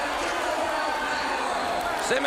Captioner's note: crowd chatter; crowd cheering